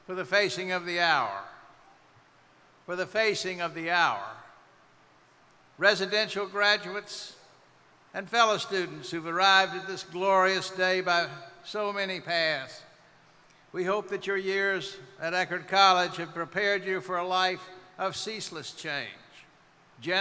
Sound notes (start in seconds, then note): none